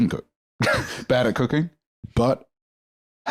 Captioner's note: laughs